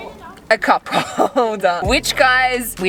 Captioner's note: chuckles